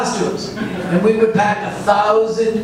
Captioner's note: audience laughs